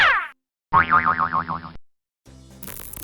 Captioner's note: spring boinging; electricity zapping